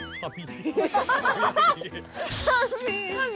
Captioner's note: laughing